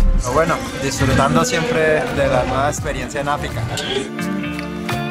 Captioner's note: speaks foreign language